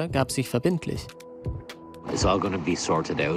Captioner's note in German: englisch